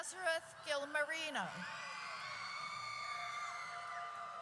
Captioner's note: audience cheers